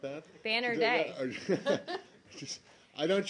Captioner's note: laughter